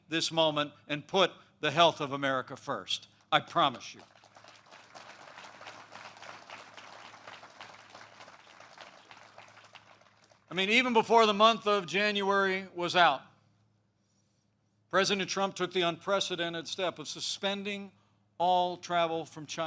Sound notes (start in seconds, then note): 3.4 applause